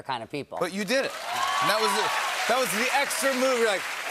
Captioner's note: cheers and applause